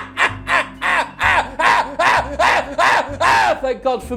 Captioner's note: laughs louden into shouts